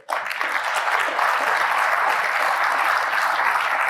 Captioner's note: applause